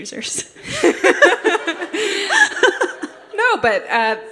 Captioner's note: laughter